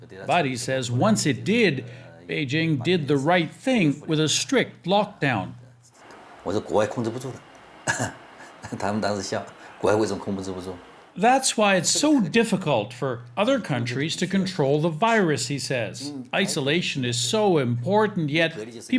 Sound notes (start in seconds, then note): 6.3 speaking Mandarin